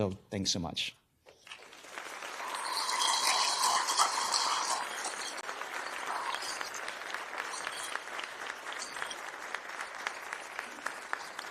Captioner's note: applause